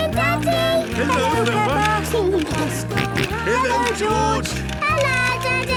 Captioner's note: George giggling and snorting